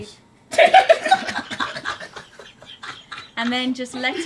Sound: group laughing

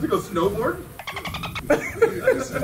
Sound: laugh

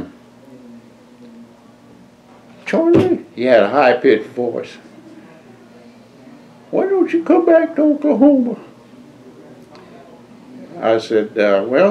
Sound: speaking with high-pitch voice

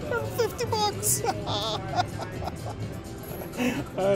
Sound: laughs loud

